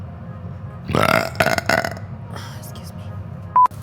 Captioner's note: belching; beeping